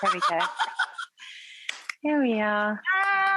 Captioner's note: laughs